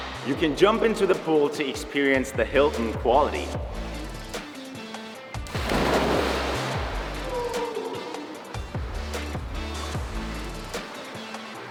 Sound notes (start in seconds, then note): 5.4 water Splash